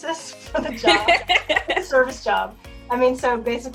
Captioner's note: laughs